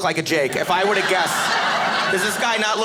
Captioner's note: audience laughing